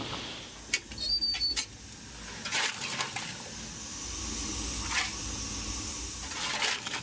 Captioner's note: coal clatters; door opens